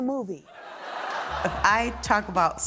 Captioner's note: laughter